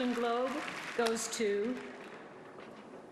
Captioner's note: applause